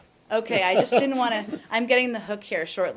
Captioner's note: laughter